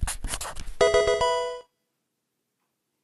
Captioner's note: pencil writing; Pokemon game sound